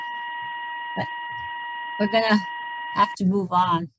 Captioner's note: technical alarm beeps